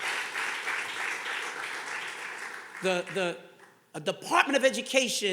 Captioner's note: audience clapping